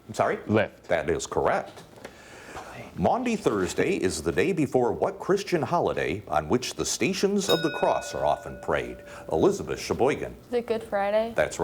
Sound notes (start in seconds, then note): 7.4 bell dinging